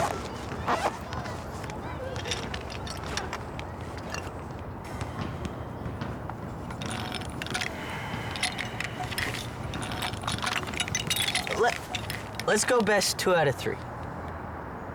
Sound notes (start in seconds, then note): 0.6 zipping; 3.2 tinkering of chess pieces